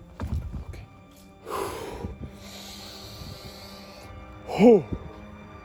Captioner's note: exhales